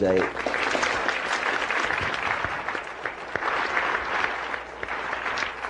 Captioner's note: applause